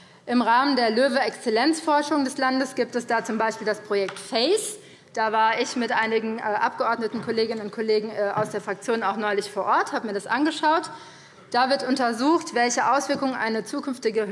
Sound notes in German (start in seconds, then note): none